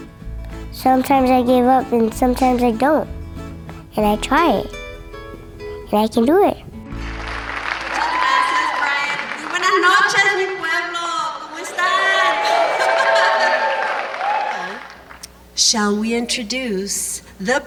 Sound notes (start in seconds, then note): 6.9 applause; 9.0 spanish